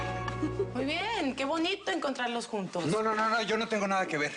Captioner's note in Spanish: Risas